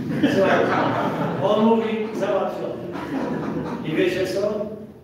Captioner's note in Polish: Śmiech z sali